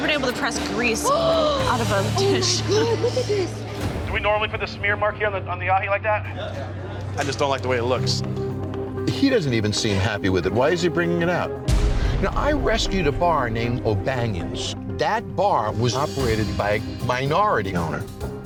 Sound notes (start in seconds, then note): 3.0 gasping